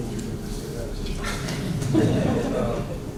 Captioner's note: laughter